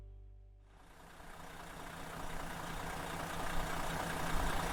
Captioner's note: engine idling